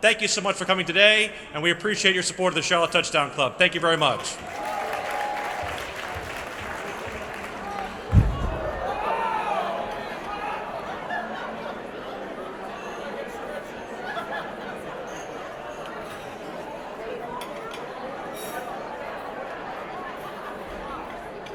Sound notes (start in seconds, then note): 3.9 applause; 8.8 crowd noise